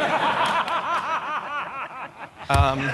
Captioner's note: laughter